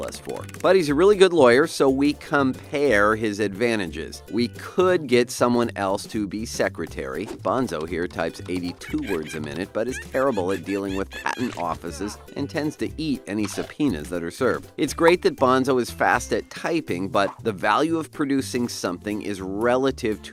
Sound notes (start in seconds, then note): 8.4 Bonzo typing frantically